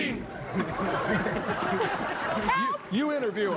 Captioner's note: laughter